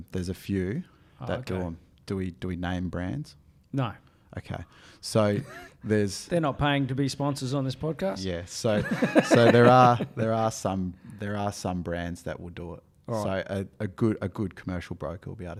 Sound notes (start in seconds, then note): 5.4 laughs; 8.7 laughing